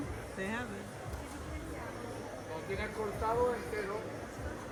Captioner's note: speaking Spanish